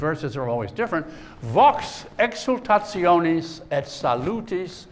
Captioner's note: speaking latin